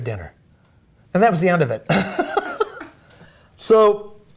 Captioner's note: laughing